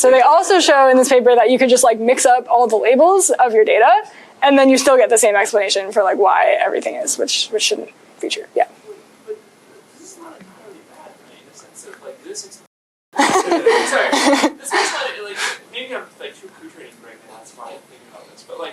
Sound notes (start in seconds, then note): 13.2 laughter